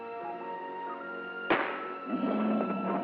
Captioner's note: gun firing; growling